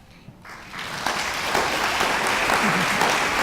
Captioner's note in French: Applaudissement